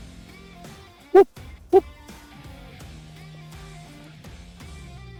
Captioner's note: coyote calls